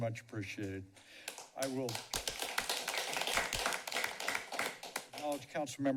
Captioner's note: applause